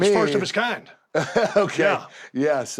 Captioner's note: laugh